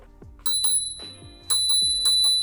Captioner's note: rings bell